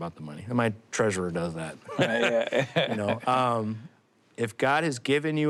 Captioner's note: both laugh